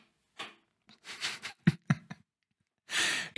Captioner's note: laughter